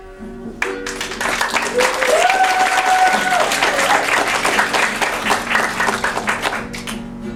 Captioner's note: applause